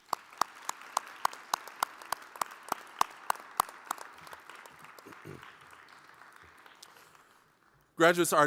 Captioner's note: applause